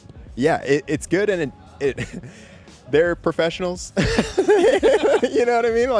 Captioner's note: laughs